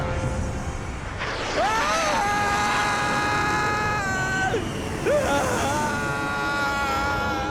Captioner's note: screams